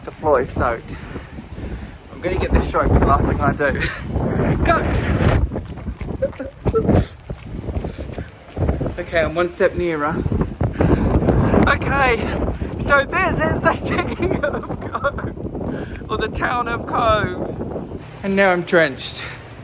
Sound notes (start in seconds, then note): 5.6 wind buffets mic